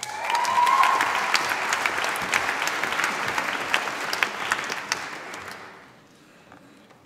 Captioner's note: applause